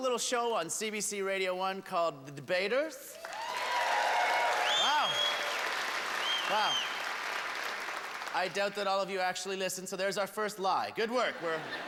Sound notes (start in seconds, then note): 3.2 hoots and cheers; 6.1 whistling